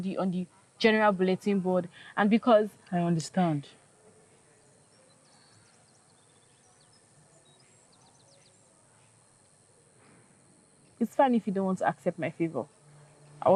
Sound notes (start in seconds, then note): 6.6 birds chirping